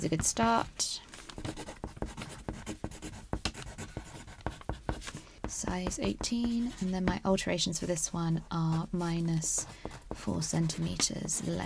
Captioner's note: pencil scratches